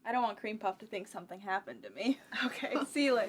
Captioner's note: laughs